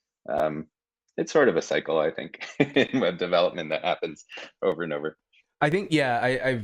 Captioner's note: chuckling